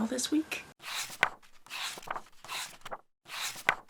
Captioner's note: pages turning